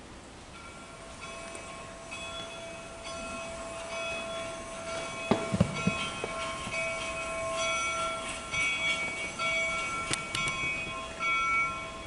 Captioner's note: train noises